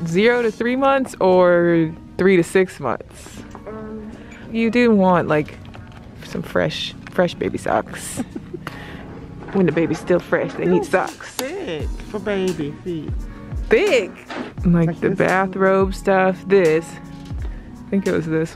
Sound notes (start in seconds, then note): 8.1 laughs softly